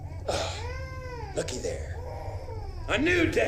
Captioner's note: crying Continues, Echoing